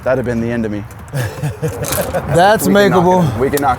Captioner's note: laughs